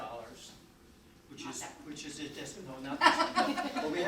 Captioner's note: laughs